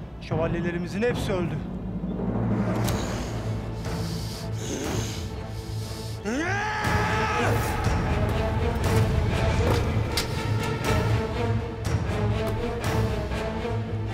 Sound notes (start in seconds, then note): 2.9 Hırıldamalar; 9.4 Müzik - Gerilim